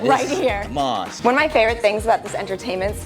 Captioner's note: Caleb chuckling